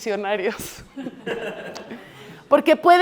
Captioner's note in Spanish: Risas